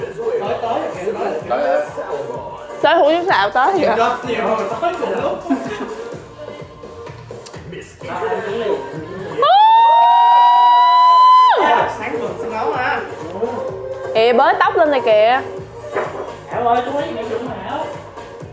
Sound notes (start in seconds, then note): 6.9 screaming